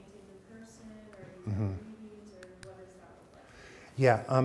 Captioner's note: speaks faintly